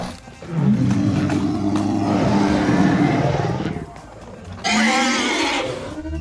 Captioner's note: dinosaur roars